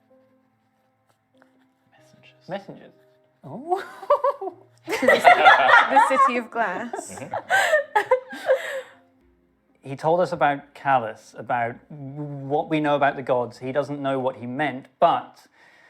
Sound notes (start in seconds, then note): 3.7 does a weird laugh; 4.8 laughter